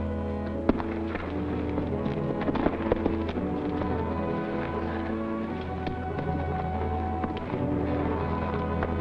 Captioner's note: scraping